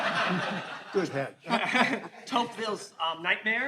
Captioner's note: all laughing